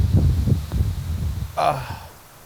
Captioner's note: sighs